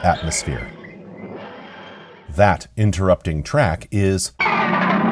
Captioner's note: TARDIS wheezing & groaning